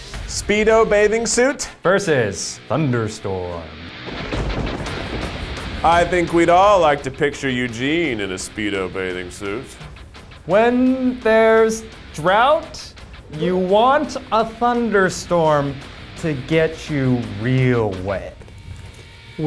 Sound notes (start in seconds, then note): 4.0 rock music; 4.0 thunder cracks